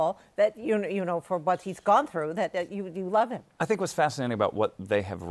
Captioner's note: none